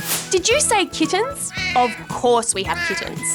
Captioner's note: miaowing